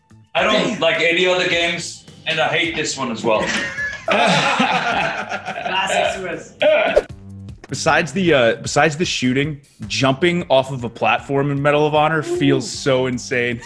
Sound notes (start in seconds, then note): 3.3 laugh